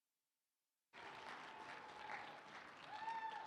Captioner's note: applause